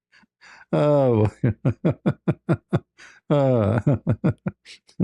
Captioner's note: ketawa